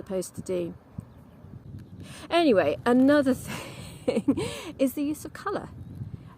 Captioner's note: laughs